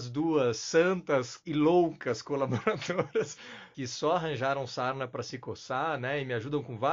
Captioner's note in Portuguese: risos